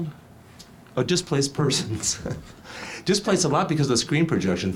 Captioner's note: laughs